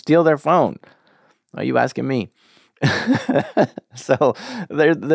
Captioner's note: laughs